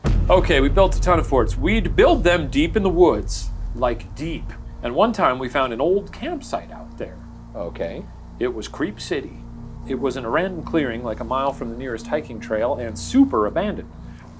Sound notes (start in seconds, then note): none